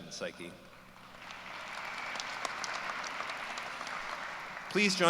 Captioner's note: applause